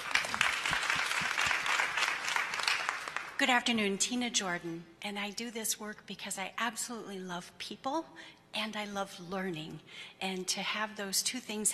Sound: applause

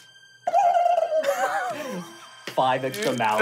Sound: trilling

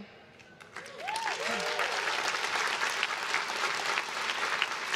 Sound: crowd claps and cheers

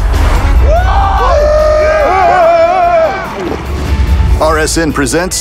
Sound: cheers

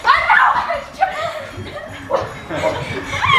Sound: screaming

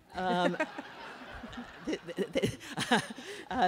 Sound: laughter

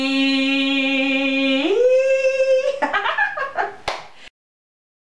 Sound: giggling

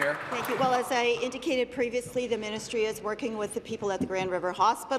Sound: applause

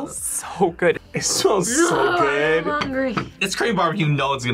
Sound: groans

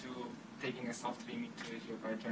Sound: speaking faintly

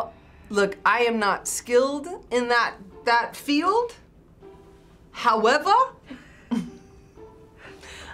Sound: chuckles

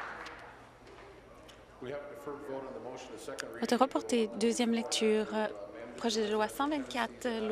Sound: applause

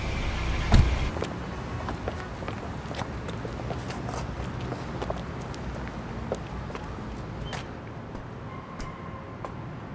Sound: footstep sound

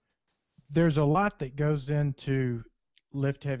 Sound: voiceover

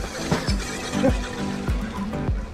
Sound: he is laughing

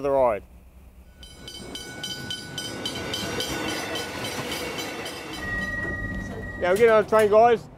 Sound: ding ding ding

